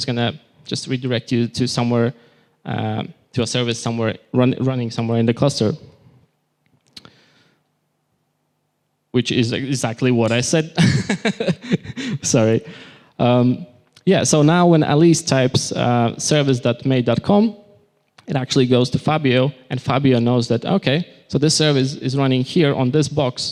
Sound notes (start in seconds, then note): 10.8 laughter